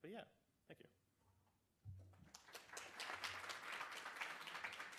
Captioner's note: applause